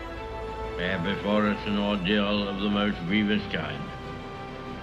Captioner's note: Churchill on radio